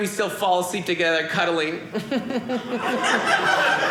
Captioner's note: audience laughing